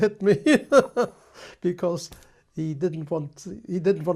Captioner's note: laughs